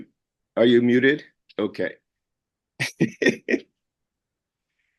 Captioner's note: laughs